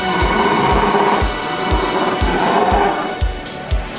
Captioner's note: dinosaur roar